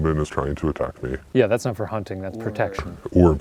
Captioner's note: voiceover